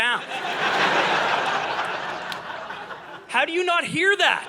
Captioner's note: audience laughing